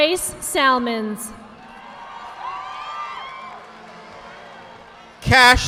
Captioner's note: audience applauding